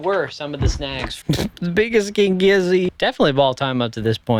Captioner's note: laughs